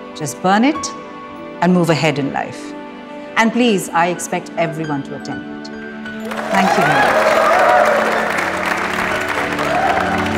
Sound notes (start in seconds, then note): 6.2 Clapping